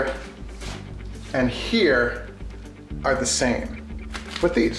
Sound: none

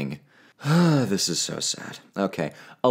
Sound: sigh

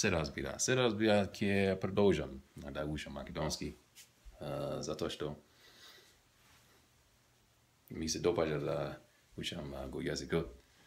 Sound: macedonian

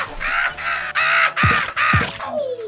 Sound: pow

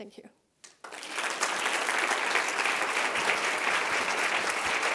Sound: audience applauding

